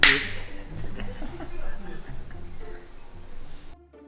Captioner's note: laughing